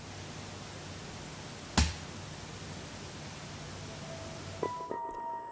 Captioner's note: slap